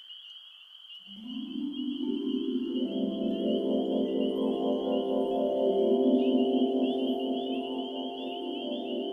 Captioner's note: magical chimes